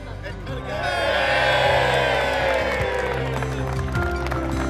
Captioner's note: applause